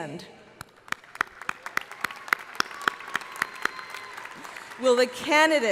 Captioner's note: crowd applauding